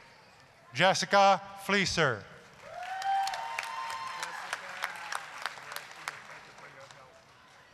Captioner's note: applause, cheering